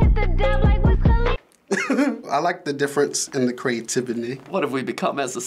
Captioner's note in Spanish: ríe